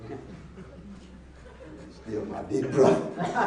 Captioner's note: laughing